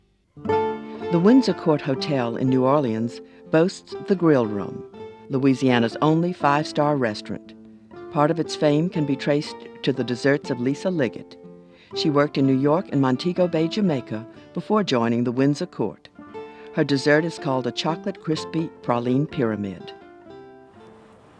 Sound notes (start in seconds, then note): 1.0 voiceover